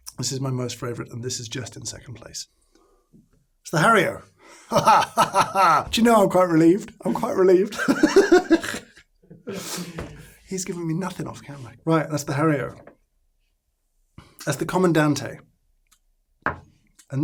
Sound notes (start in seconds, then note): 7.7 laughing